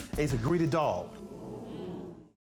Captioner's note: audience murmuring